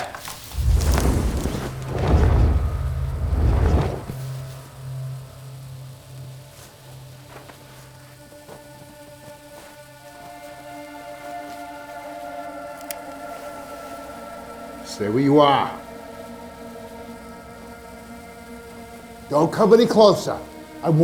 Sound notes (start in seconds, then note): 0.0 branches snap; 0.5 creature whooshes; 4.7 flares hissing; 4.7 tense music; 12.8 gun cocks; 15.1 tense music; 16.4 flares hissing